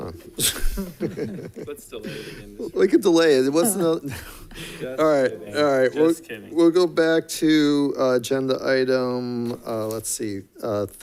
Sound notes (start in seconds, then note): 0.4 laughs; 4.5 laughs